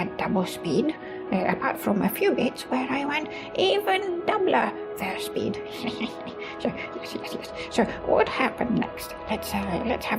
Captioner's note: chuckle